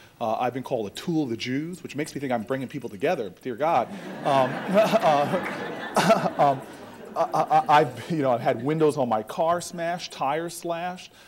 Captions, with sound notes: I've been called a tool of the Jews, which makes me think I'm bringing people together, Dear God. [AUDIENCE LAUGHTER] I, you know, I had windows on my car smashed, tire slashed.